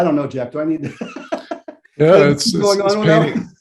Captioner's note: laughs